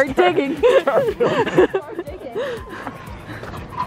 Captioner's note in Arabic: الكل يضحك